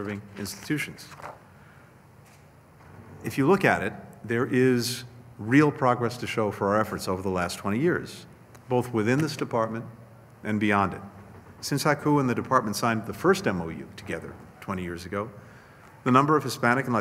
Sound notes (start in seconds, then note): none